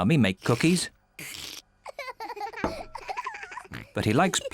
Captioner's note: peppa and suzy giggling